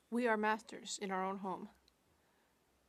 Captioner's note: speaking French